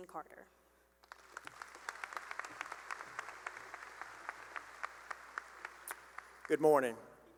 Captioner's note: applause